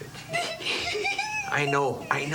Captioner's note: Lulu giggling